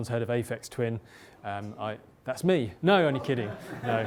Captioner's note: laughter